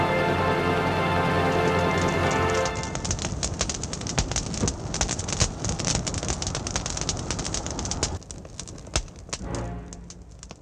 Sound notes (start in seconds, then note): 2.3 fire crackling